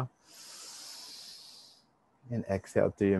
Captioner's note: inhale deeply